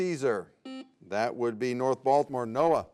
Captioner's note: buzzer beeps